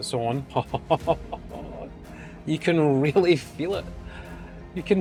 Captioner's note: laughs